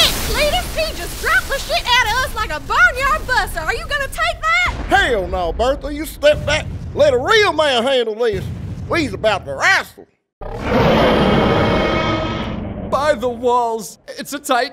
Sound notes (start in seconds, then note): 10.4 Emo titan roars